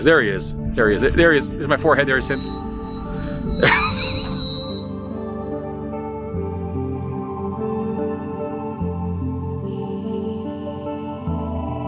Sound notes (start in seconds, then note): 3.7 laughing; 6.5 soft music continues